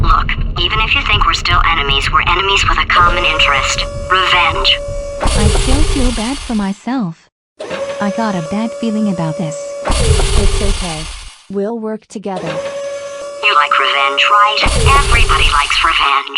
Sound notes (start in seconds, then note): none